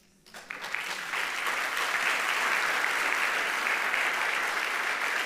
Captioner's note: audience applauding